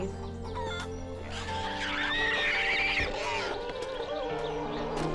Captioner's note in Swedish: grisen skriker